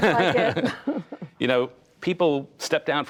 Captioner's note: laughter